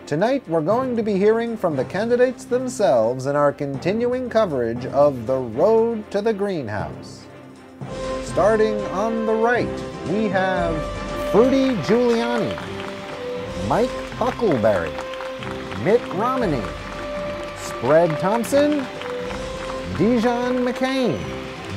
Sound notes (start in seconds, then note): 14.4 crowd cheering